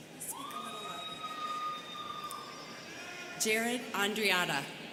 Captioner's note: students cheering